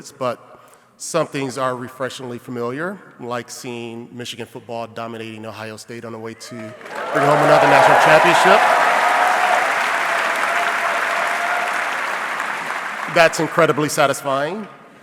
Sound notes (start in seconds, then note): 9.1 audience cheering